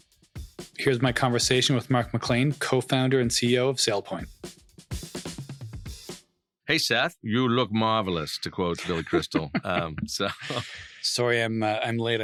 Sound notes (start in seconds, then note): 8.6 laughs